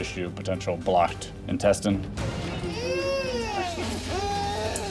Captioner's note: crying